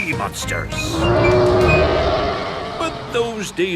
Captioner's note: roaring